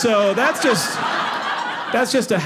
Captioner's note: audience laughing